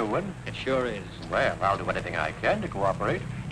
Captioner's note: tires screeching